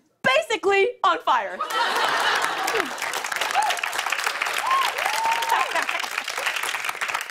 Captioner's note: laughter, cheers, and applause